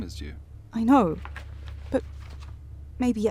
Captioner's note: pages turning